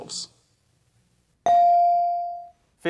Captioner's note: bell rings